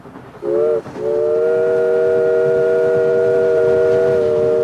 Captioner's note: train whistle blasting